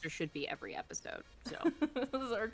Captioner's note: snickering